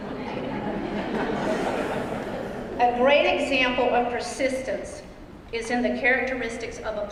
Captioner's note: laugh